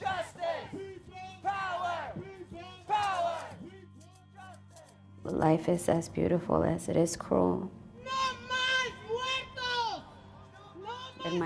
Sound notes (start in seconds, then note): 0.0 crowd; 8.6 speaking in Spanish